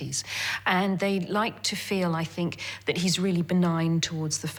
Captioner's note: none